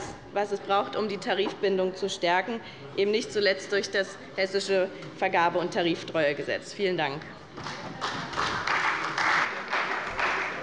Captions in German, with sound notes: was es tun kann, um die Tarifbindung zu stärken, nicht zuletzt durch das Hessische Vergabe- und Tariftreuegesetz. [Beifall bei dem BÜNDNIS 90/DIE GRÜNEN und der CDU]